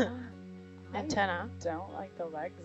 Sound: woman laughing

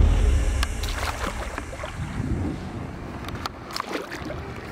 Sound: water splashing

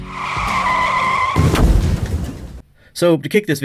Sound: screeching; boom

